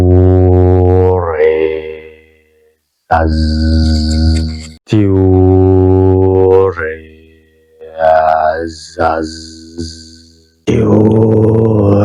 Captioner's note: vibrating the rune